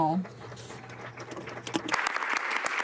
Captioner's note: some Applause